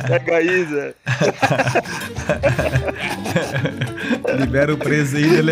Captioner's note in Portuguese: risos